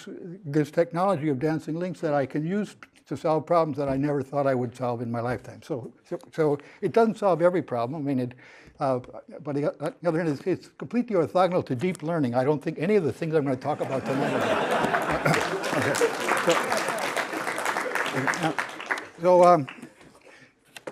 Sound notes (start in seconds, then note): 13.7 laughter; 14.5 applause